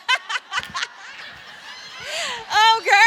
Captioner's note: laughs